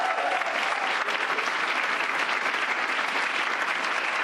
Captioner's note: cheers and applause